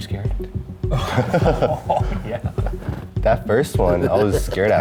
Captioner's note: laughing